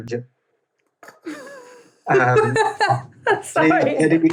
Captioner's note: laughs